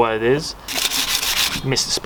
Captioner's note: sandpaper scratching